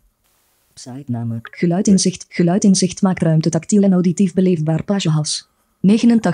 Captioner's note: computer speaks in foreign language